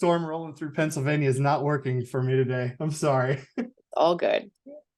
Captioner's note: chuckles